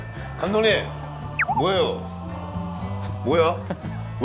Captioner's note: wobbling